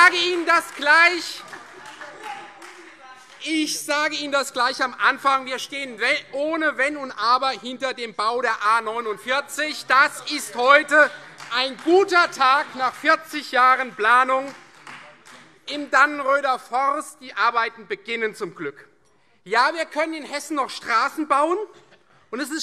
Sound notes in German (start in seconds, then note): 14.4 Beifall Freie Demokraten